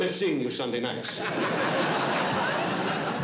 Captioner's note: laughter